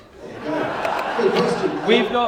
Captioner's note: laughter